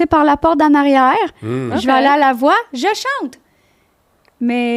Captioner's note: in french